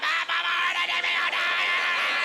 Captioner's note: screaming indistinctly